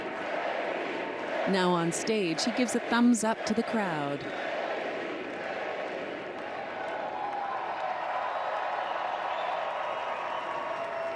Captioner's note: cheers and applause